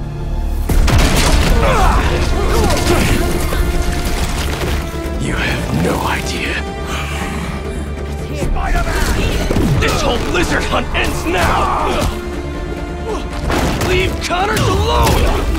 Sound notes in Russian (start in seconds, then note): 11.5 Кряхтит